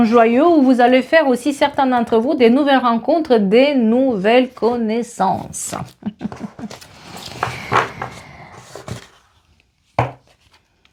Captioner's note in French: rires